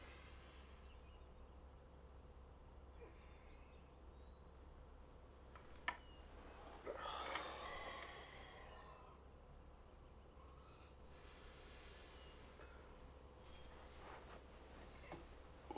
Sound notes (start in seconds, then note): 0.0 Addison inhales sharply; 3.3 Addison softly groans; 6.8 Addison sighs heavily